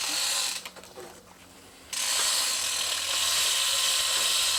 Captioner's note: loud creak